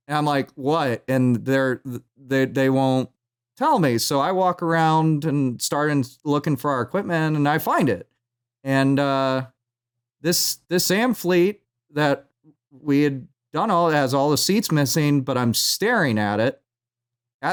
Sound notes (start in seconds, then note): none